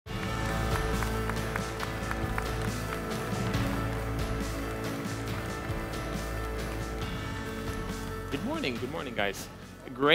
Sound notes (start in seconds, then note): 0.3 upbeat music; 1.8 audience lightly applauding